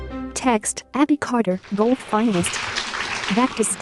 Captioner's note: applause